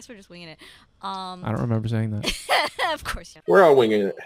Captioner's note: laughing